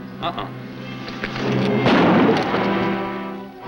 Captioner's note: gunshot